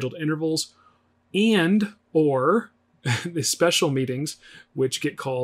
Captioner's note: chuckles